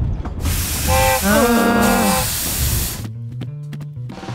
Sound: groans

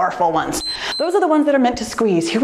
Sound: timer beeps

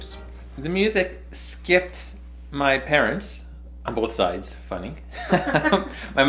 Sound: laughter

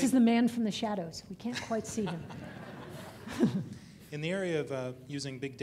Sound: audience laughing

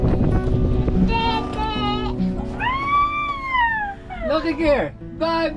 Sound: screeching

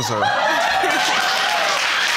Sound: audience laughing and applauding

